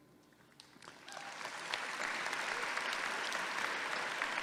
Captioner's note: audience clapping